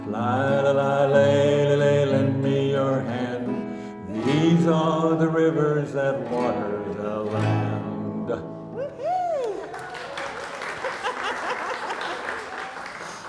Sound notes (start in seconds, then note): 9.1 audience cheering; 9.2 audience applauding